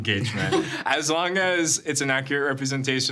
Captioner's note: chuckling